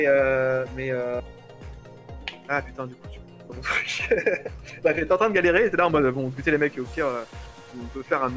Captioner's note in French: rires